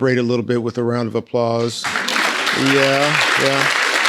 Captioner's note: people applauding